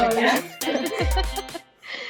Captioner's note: laughter